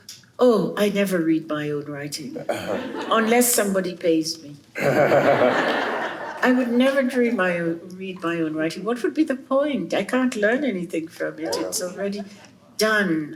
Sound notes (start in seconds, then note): 4.8 chuckles